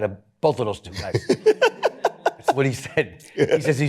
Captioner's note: laughs